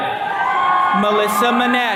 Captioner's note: attendees cheering